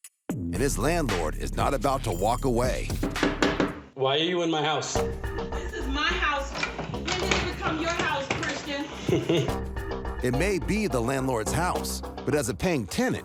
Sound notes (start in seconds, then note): 3.0 rapping on door; 6.6 doorknob turning; 8.7 scoffs